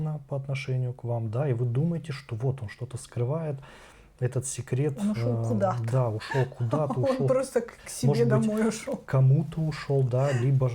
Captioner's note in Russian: смех